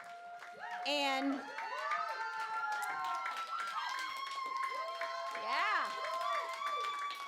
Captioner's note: cheering